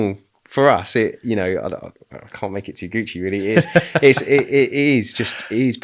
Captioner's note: laughing